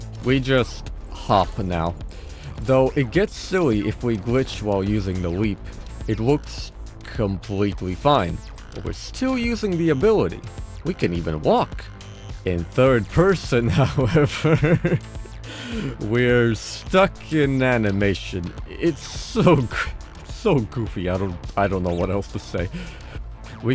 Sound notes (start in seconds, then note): 13.7 chuckle